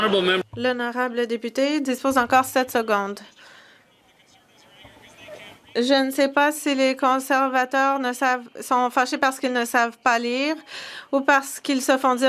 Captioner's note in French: voix de l'interprète